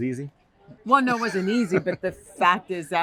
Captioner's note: laughter